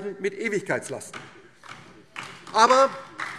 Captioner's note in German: Beifall DIE LINKE